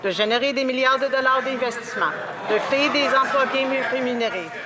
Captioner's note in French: voix de l'interprète